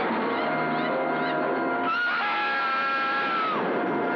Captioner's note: screaming